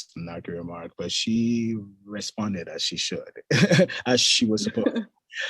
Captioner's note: chuckles